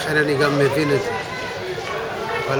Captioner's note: Arabic